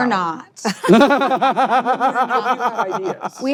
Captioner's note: laughter